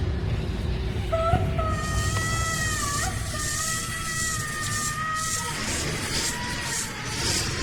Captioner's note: creature chittering; Wendy screaming